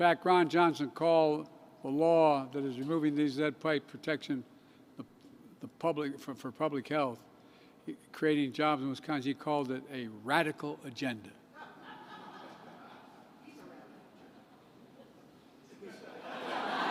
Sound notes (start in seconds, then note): 11.5 laughter